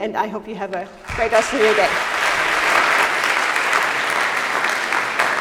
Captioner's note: audience applauds